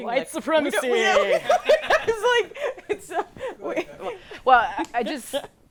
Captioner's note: group laughs